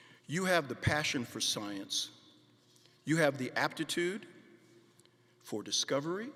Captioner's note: none